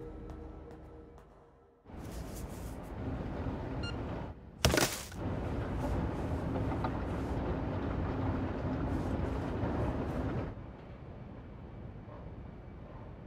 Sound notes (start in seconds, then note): 3.8 phone beeping; 4.6 garbage hitting can